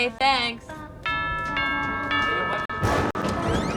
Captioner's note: doorbell ringing; thunder rumbling